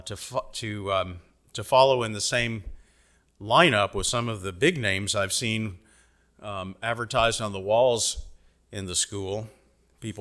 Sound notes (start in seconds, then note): none